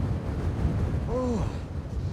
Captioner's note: groans